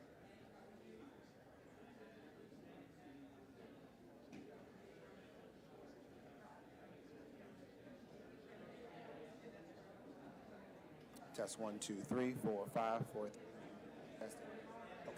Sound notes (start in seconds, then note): 2.7 indistinct chatter